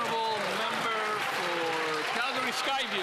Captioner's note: some Applause